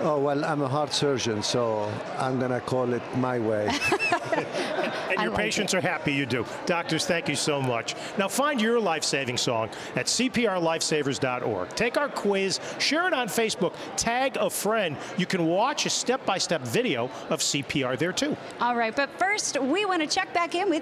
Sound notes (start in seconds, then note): 3.6 chuckling